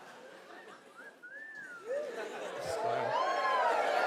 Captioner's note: wolf whistl